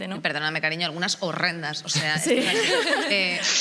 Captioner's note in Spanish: algunos ríen